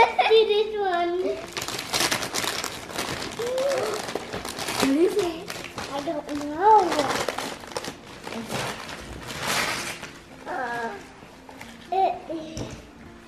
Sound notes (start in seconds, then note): 0.0 laughs; 1.4 paper ripping